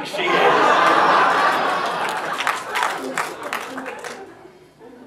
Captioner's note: audience laughs